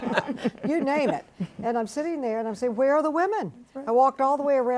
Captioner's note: panelists laughing